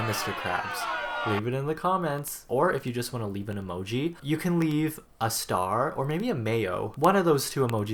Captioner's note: cheering